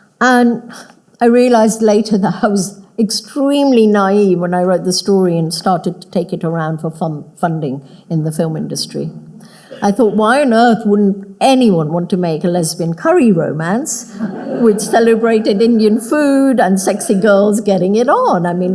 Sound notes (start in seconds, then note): 14.0 audience laughing